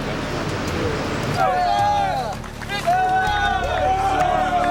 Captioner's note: students cheer